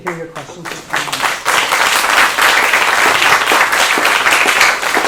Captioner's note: applause